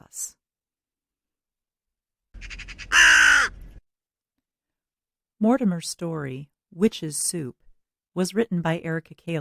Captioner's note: raven Call